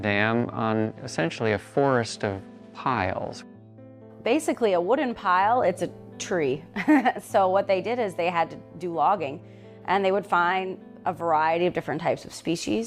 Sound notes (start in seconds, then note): 6.5 laughs